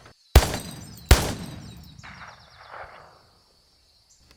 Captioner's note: gun firing